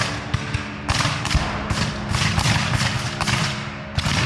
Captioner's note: guns fire